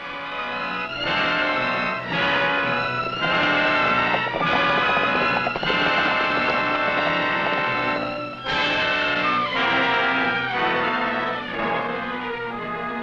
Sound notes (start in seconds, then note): 0.1 tense music; 4.8 horse hooves pattering; 10.4 tense music